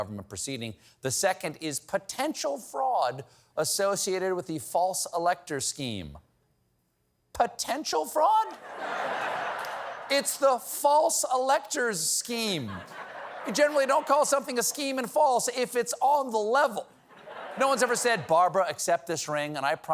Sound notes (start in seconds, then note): 8.4 laughter